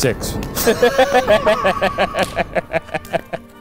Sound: laughs

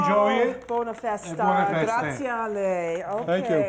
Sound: speaking Italian

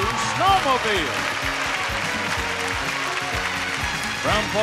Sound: audience applauding

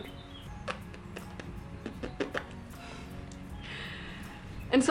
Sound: blowing lips

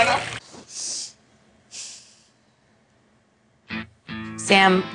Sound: silence; rock music

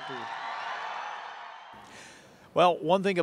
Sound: applause

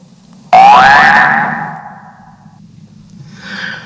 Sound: alarm rings; sighs

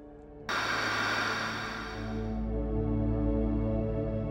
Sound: tv static blares; gentle music

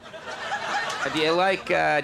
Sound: audience laughing

